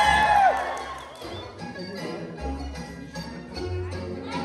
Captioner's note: applause